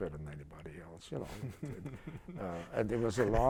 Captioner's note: laughter